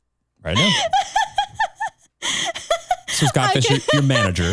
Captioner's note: chuckles